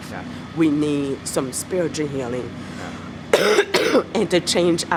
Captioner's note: coughing